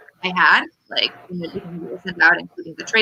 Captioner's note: radio interference drowns out speaker